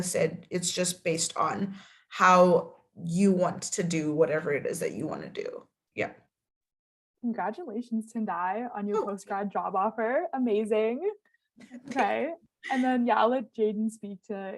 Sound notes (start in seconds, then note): 11.6 laughing